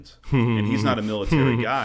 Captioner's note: laughs